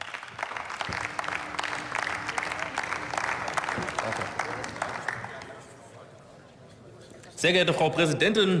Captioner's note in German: Beifall